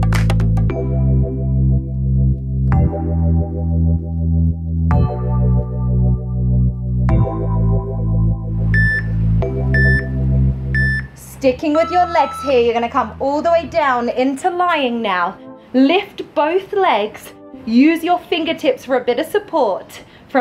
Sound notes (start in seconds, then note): 8.9 timer beeping